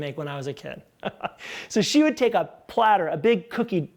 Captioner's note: laughs